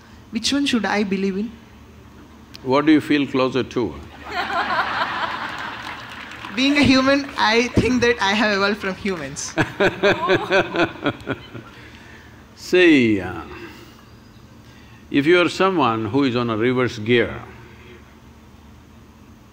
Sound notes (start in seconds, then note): 4.1 laughter; 9.6 Sadhguru laughs